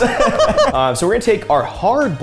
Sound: both laughing

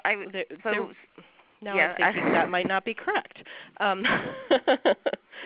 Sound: chuckles

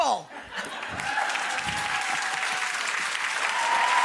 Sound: audience cheering

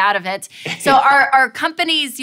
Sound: laughs

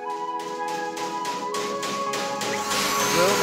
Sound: loud banging noises; deafening drilling noise

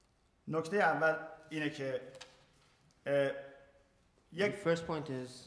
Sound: speaking in farsi

